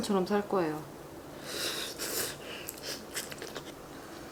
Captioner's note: slurps